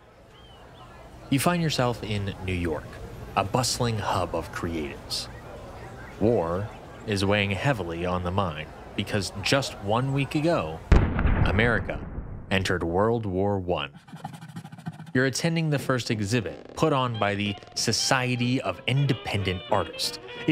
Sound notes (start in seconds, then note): 0.2 birds chirp; 3.2 distant crowd; 10.9 single heavy cannon shot; 13.8 erasor rubs; 16.7 stretching rubber